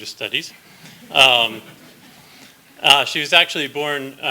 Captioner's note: slight laughter